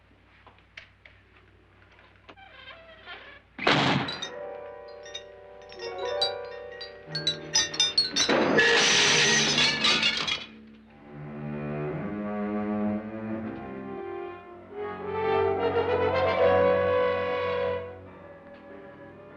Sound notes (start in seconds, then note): 3.8 glass clinking; 15.4 tense music